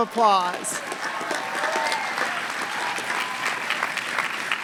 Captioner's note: applause